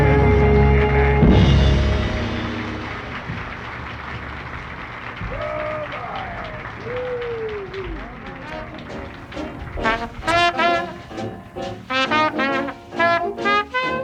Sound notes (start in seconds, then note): 0.2 audience applauds; 5.2 exclaims; 8.2 jazzy music